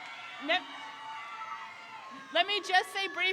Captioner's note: crowd cheers